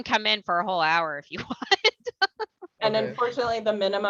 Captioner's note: laughter